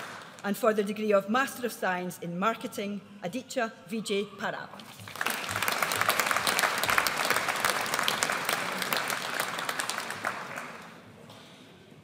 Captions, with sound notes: And for the Degree of Master of Science in Marketing, Aditya Vijay Parab. (AUDIENCE APPLAUDS)